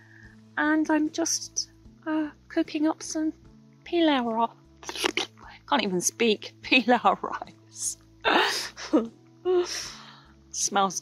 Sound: blows raspberry!

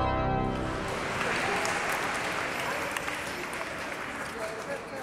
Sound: applause

